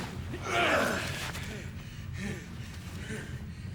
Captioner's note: grunts